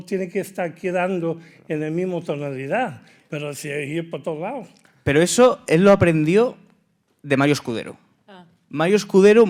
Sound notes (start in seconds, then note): 3.6 speaking in Spanish